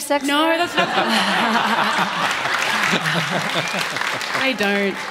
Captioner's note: audience Laughter